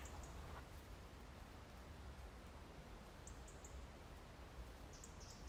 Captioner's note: wind blowing